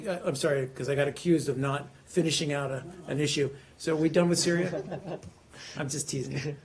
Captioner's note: laughter